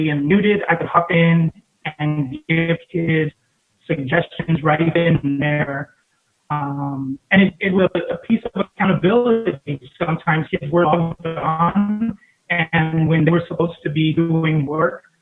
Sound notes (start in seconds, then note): 10.9 audio fading out